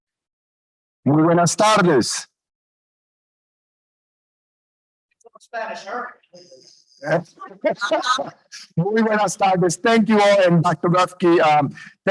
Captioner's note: speaks foreing language